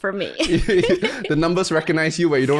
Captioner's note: laughs